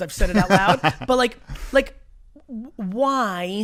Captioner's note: laughs